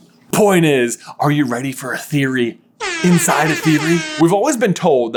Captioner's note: air horn sound